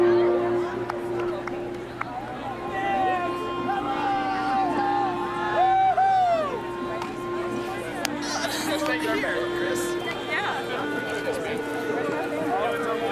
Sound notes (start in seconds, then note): 2.6 shouting; 4.6 whooping